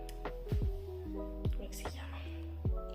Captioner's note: in Italian